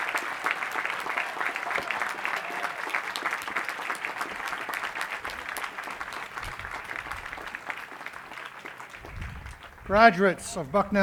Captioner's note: cheering and applause